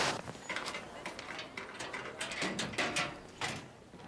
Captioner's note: locker clicking